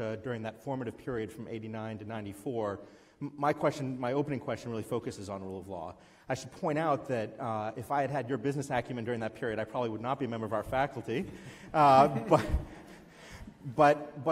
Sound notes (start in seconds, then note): 11.6 giggles